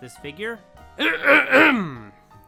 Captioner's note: clears throat